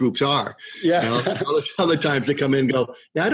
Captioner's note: laughs